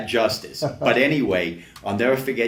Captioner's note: laughs